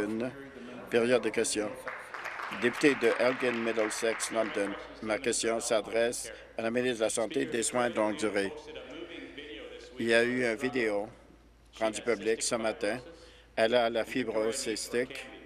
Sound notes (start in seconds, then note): 5.4 applause